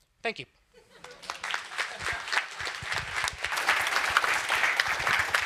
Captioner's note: applause